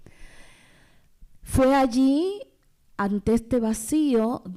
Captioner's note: speaking spanish